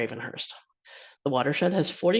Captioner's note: inhales